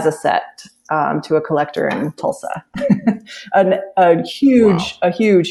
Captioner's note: laughs